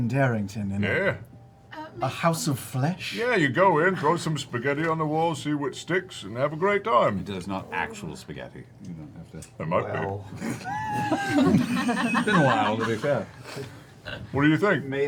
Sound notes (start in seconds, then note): 10.4 laughter